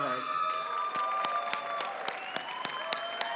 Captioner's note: cheering